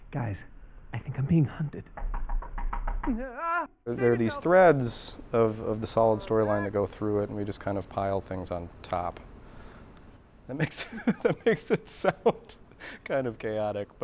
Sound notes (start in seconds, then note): 1.9 knocking; 3.0 scream